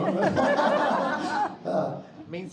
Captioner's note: crowd laughing